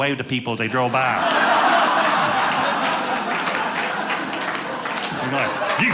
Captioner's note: audience laughing